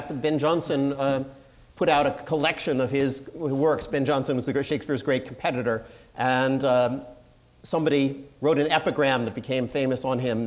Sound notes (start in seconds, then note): none